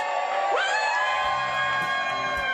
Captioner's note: cheering